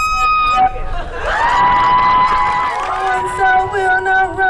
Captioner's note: crowd Cheering; singing